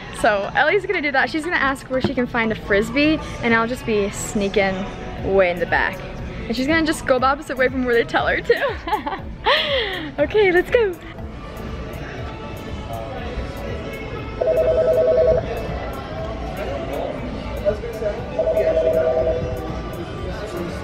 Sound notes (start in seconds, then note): 8.4 laughing